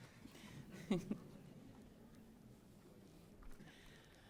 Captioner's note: laughs